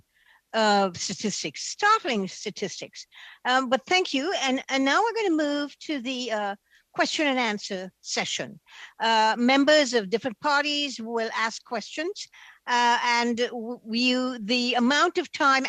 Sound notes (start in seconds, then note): 1.7 speaking French